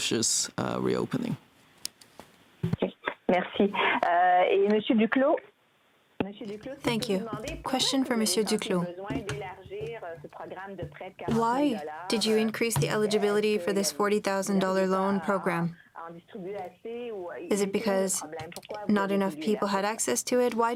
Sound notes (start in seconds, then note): 12.0 speaking French